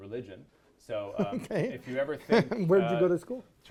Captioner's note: laughs